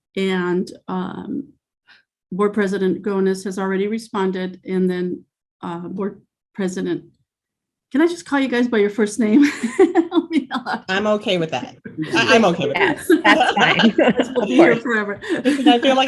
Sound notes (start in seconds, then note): 9.4 laughs